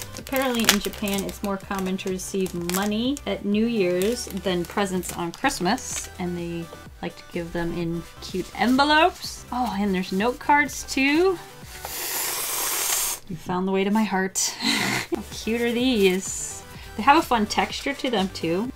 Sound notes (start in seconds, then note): 11.5 deep inhale; 14.6 laughs